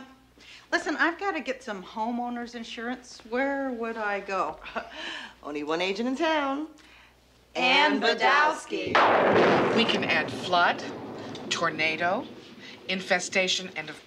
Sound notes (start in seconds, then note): 4.1 chuckles; 8.9 thunder crashing